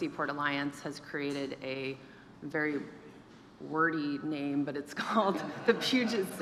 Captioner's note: laughs